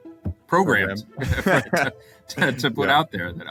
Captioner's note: both laugh